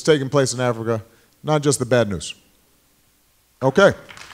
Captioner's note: applause